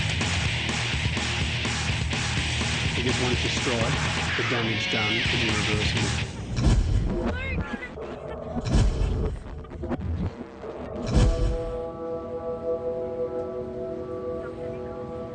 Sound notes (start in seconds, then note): 9.7 cries softly; 11.5 dramatic music